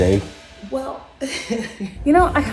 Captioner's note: laughs